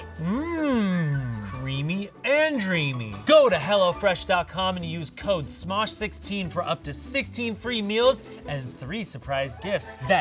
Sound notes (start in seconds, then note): none